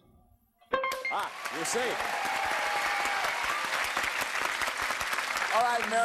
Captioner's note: cheers and applause